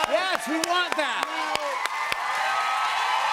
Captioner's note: cheers and applause continues